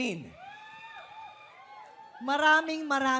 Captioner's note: audience cheering